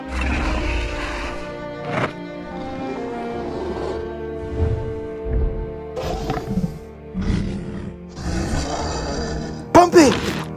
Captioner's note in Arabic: تذمر وعرة